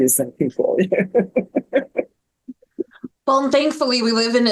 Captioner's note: laughing